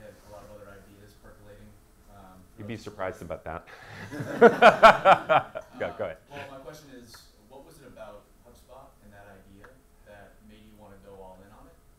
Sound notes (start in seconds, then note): 3.9 audience laughs